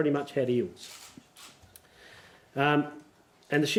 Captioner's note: cameras clicking